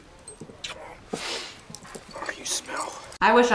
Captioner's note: sniffs